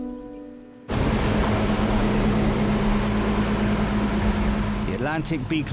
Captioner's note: boat engine revving